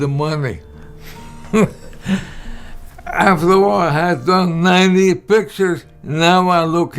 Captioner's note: laughter